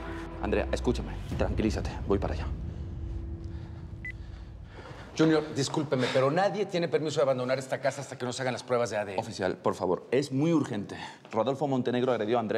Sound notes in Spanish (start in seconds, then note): 4.0 Bip